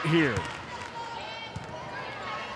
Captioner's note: ball thumping; players shouting indistinctly